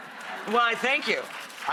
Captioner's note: audience laughter and clapping